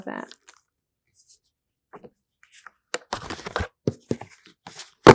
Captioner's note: pauses 6 seconds